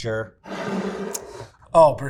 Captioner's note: jar scraping